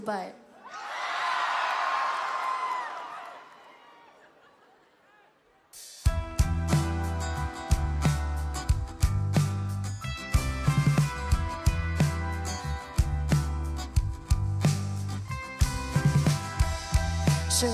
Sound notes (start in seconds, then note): 5.2 crowd cheering